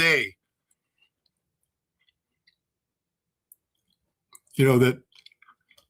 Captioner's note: blank Audio